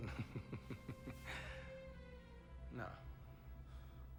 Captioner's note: laughs lightly